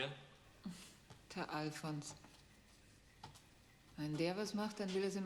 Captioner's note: speaking german